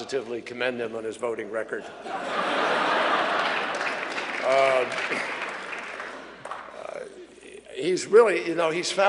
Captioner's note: laughter and applause